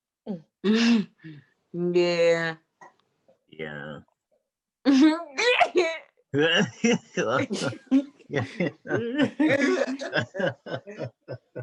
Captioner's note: laughing